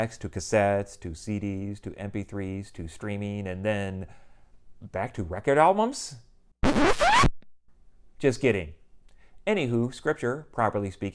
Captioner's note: record scratch